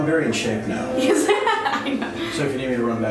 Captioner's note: laughing